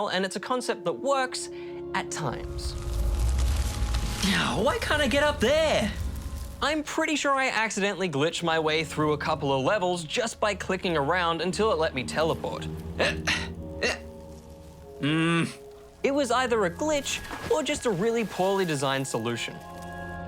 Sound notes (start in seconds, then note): 4.1 grumbles; 15.0 grunts